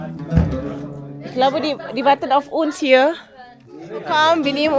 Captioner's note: speaking German